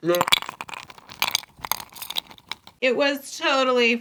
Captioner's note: ice cube sound